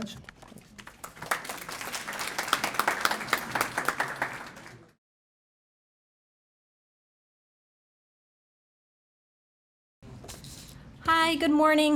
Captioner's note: applause